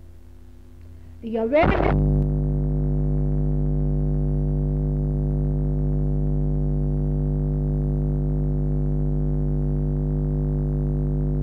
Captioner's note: noise in mp3